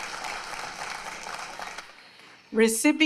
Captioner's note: applause